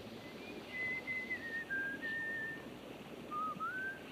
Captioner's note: Reb whistling